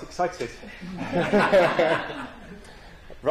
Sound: laughter

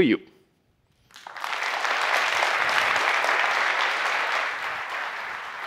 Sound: applause

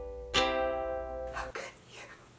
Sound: whispers

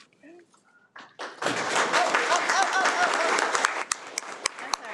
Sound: applauds

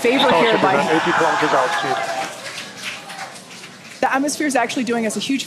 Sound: audience laughing

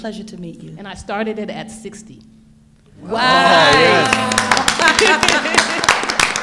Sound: all cheering

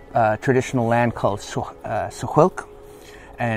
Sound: speaking Native language

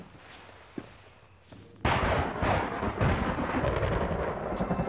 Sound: thunder crashes

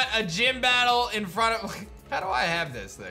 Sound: giggles

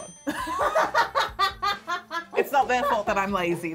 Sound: laughter

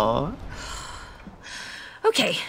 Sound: exhales

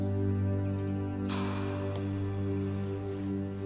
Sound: exhaling evenly

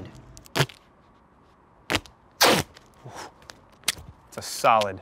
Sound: tearing

